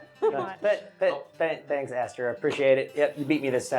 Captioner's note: laughing